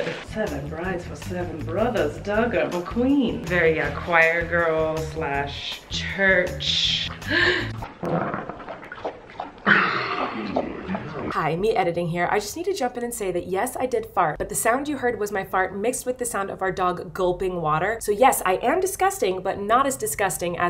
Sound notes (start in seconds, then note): 7.1 gasps; 7.8 farts; 9.0 water lapping; 10.8 laughs